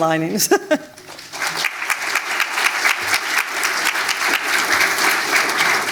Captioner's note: audience applauding